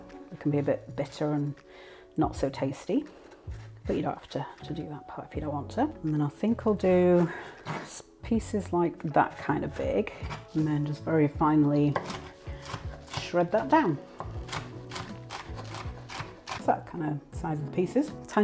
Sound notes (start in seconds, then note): 5.7 slicing; 14.2 rapid chopping thunk